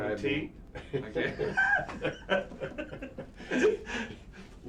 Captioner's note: both laughing